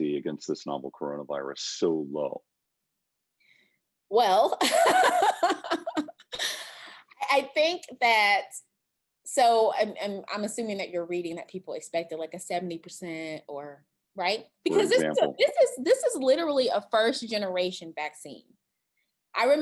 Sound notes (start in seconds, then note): 4.6 laughter